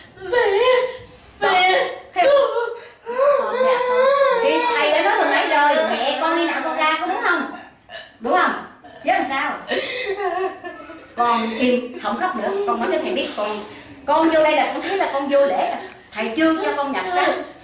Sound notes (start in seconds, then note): 3.0 crying